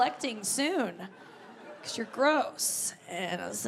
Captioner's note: audience laughing